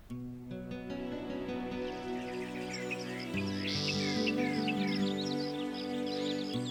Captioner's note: gentle music; birds chirping